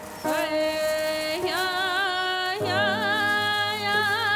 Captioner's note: chanting